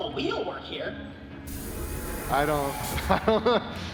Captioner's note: laughter